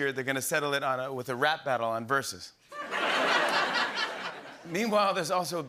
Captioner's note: laughter